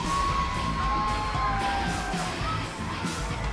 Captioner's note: crowd cheering